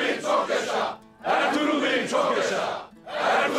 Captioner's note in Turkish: Hep bir ağızdan